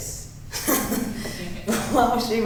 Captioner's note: laughing